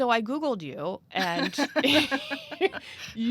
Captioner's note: laughs